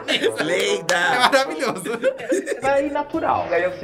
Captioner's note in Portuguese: risos